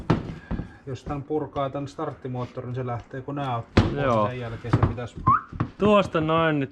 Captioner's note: whistles